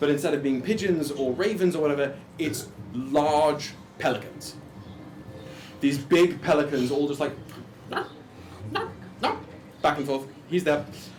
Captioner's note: squawking